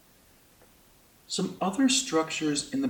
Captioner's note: voiceover